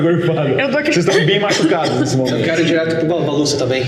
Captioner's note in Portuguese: cof cof cof